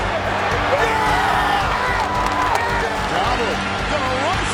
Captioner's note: cheering